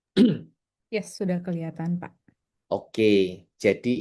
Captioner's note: berdehem